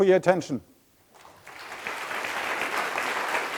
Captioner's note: applause